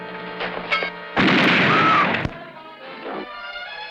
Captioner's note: gun firing; screaming; dramatic music